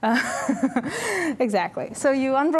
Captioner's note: laughing